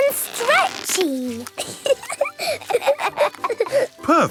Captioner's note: both laughing